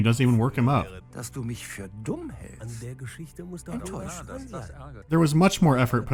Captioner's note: the actor sounds weary